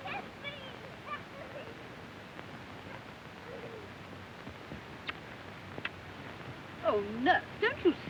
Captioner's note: children chattering